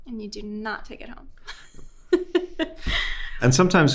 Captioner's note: host laughing